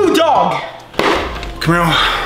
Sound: box thuds

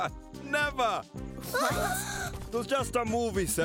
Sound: giggling; gasps

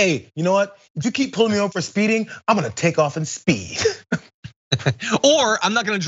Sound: laugh

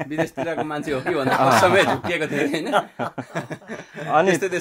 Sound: laughter

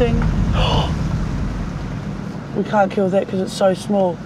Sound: gasps

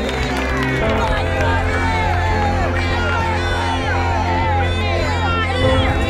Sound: cheers and applause

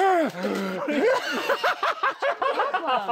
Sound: laughing

